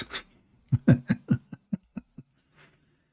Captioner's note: Ketawa